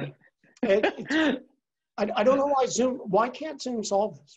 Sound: laugh

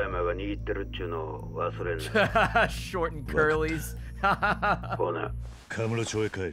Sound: laughs

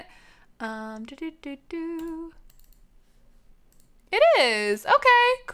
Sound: humming

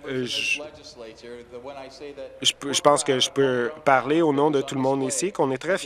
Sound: some Applause

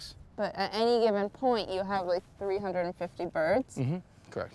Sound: none

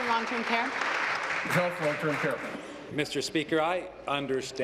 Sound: applause

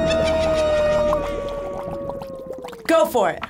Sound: evil laughter; cauldron bubbles

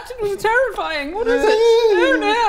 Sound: wailing

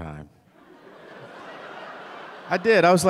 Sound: audience laughing

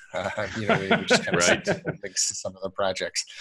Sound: laughs

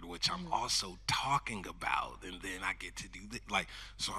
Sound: none

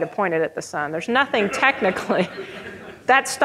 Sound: audience laughing

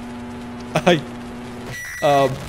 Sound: laughing

